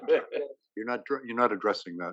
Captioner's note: laugh